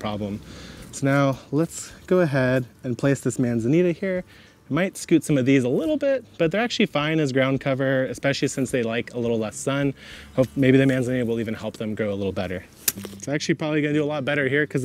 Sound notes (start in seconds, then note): 12.8 shovel swishes